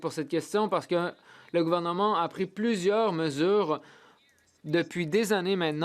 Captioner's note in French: voix de l'interprète